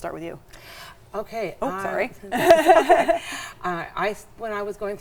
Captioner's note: laughs